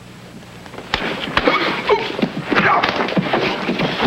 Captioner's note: body thuds; hands thwacking; hands pounding